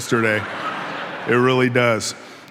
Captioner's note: audience laughing